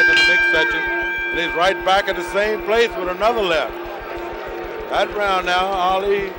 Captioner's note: bell sounds